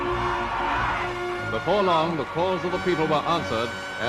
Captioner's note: voiceover